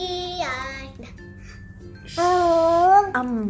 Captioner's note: baby sounds